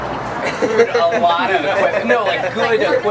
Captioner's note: laughs